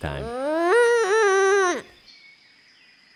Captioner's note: angry groan